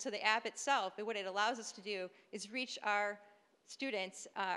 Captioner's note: none